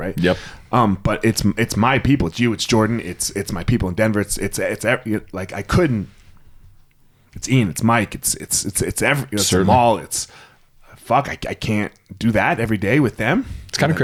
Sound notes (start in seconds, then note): 5.0 stammers